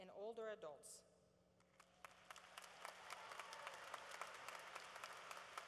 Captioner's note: applause